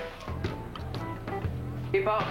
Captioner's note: Chuchotement